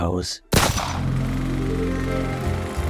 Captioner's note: gunshot